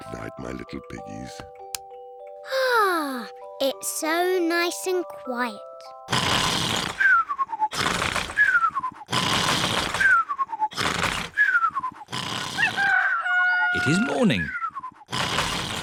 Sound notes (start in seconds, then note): 2.4 sighs happily; 6.1 george snores loudly; 12.7 cockerel crows